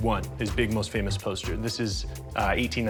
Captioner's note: none